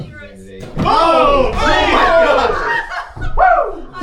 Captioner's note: excited reactions